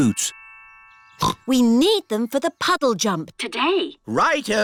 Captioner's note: snorts